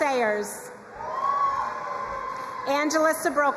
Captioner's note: crowd cheering and applauding